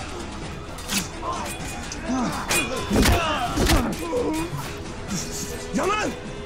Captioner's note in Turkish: Çarpışma sesleri